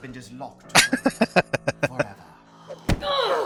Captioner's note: laughing